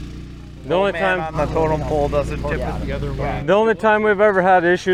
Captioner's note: engine roaring; men chattering indistinctly